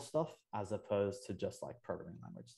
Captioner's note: voice muffling